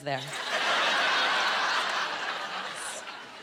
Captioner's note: laughing